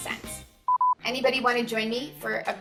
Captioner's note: screen beeping